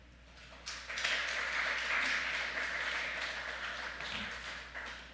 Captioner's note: audience clapping